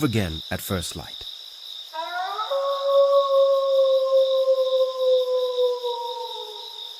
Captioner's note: wolf howling; crickets chirping